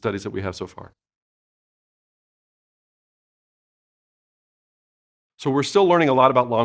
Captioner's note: silence